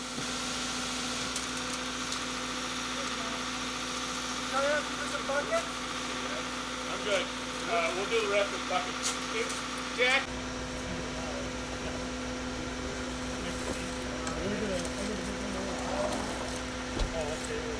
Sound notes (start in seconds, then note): 0.4 machine revving; 11.2 engine revving; 12.6 laborers chattering